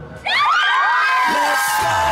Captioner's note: cheerleaders yelling